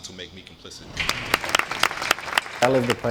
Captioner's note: clapping